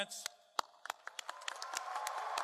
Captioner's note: applause